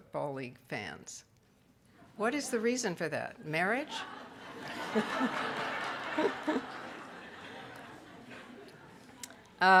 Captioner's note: audience laughter